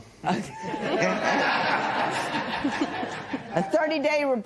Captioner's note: laughter